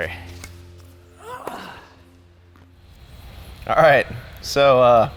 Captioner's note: groans